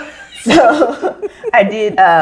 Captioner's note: all laugh